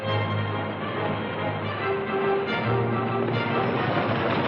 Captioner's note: action music; horses galloping